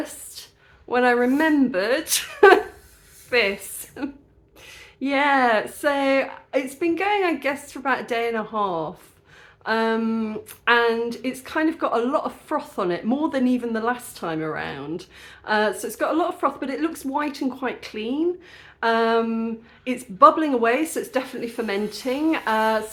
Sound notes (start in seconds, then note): 2.5 laughing